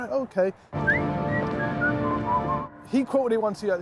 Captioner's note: whistling